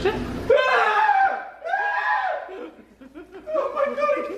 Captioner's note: shouts